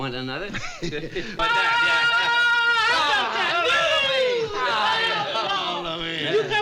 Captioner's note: both laughing; screaming